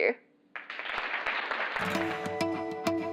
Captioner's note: applause